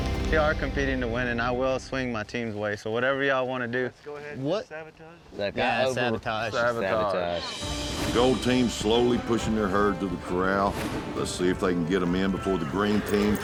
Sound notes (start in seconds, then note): 4.1 all chattering